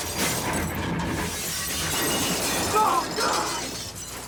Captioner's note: glass shattering